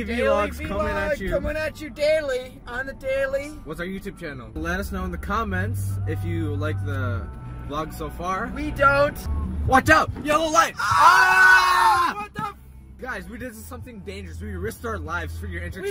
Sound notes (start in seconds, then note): 10.8 exaggerated screaming